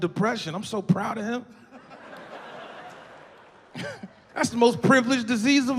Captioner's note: audience laughing